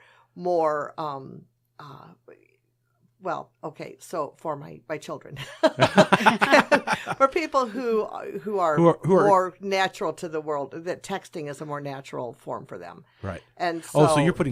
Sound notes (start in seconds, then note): 5.4 all laugh